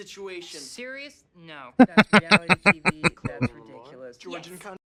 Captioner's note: laughing